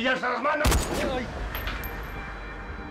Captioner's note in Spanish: Disparo